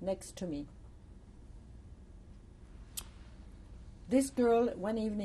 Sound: pauses for 3 seconds

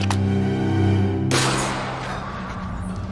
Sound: helmet clangs noisily

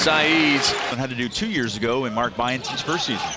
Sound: voiceover

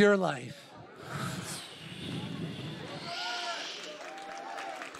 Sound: hisses

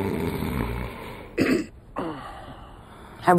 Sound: snoring

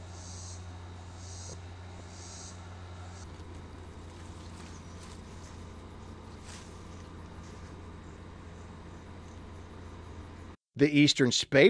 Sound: nature sounds

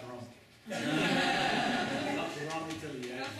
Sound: laughter

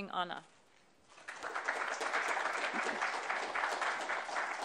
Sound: applause

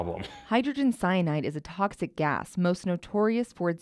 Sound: voiceover

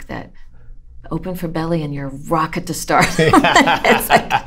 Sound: laughter

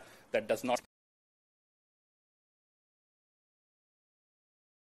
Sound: audio silence

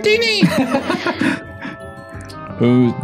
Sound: feminine Pity Laugh

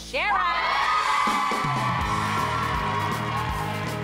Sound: group cheers

